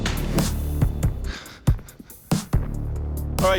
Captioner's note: suspenseful music; chuckles